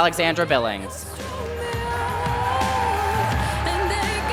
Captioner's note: applause